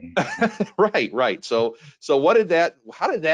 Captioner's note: laughing